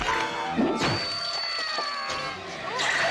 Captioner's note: screaming